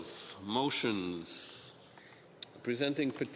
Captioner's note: speaking French